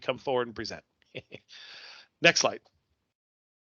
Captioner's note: chuckles